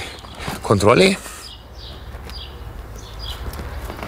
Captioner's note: birds chirping